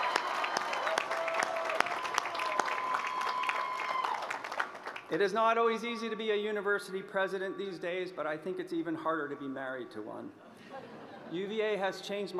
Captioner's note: applause